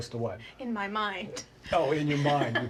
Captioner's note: laughs